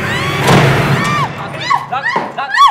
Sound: Ragini screaming

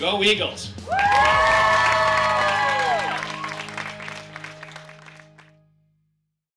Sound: cheering and applause

